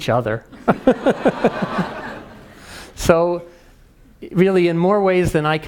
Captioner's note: laugh